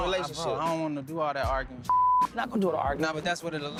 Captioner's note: beep